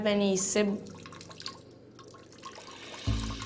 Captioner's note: liquid streaming